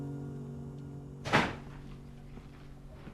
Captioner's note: DOOR CLOSlNG